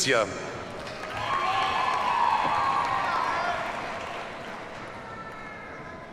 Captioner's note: audience cheers and applauds